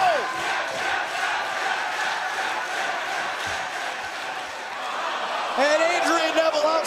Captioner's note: crowd cheering